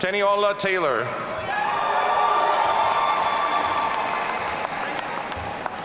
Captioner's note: audience cheering